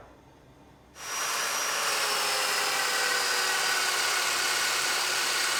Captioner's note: machinery whirs